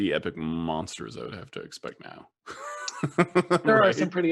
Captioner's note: laughs